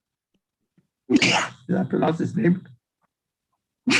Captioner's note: coughs